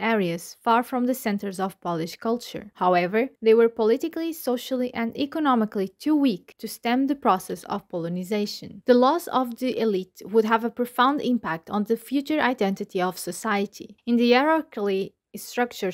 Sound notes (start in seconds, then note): 9.3 Ukrainian